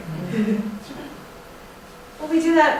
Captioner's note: laughter